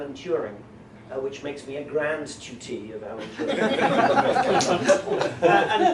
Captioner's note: laughter